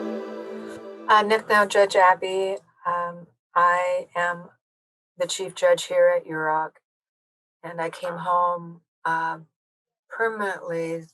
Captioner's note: speaking Yurok